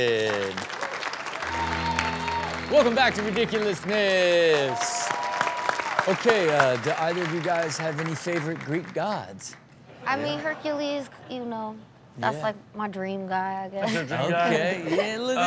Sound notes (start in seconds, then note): 0.2 audience cheers; 1.4 rock music; 5.1 audience cheers